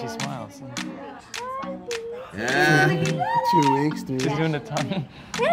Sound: laughing and cooing

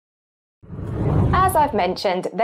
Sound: screen whooshes

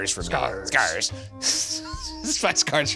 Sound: laughs

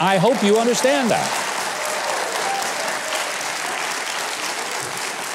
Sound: audience applauding

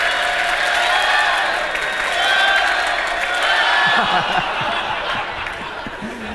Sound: cheering and applause

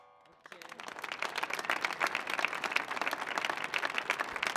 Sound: audience applauding

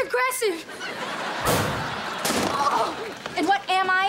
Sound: thudding, groaning

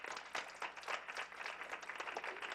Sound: clapping

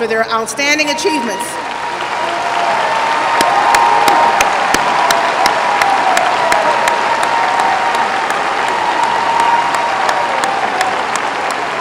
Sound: applause

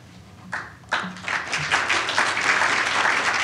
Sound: applause

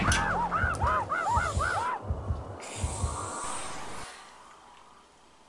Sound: monkeys screaming

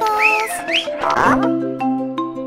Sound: whistle

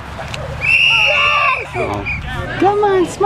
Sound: whistle blows

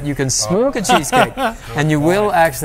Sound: laughs

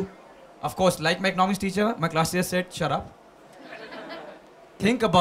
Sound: few laugh

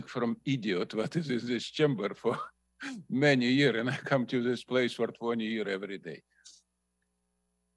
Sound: laughter

